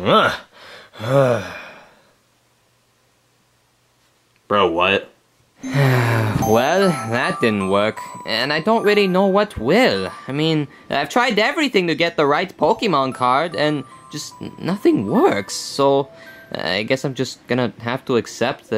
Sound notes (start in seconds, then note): 1.0 Mario grunts; 5.6 sighs